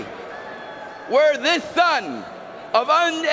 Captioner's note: cheering and applause